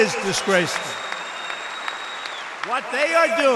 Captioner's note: applause